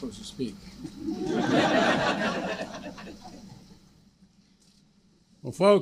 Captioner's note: laughter